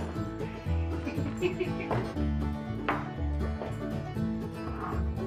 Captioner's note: drunkard laughing